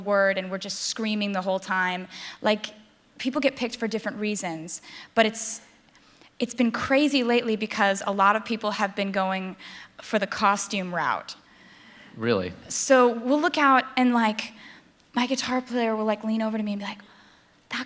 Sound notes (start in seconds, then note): none